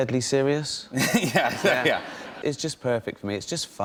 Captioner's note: laughter; laughing